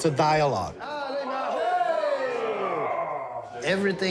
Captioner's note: people cheering